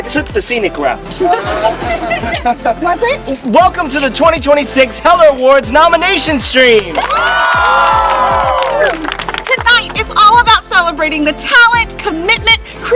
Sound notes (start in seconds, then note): 1.2 laughter; 6.9 cheers